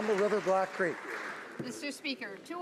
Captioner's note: some Applause